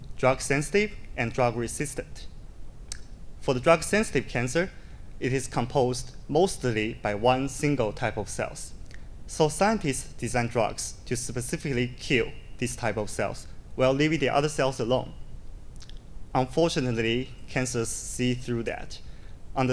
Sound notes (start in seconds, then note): none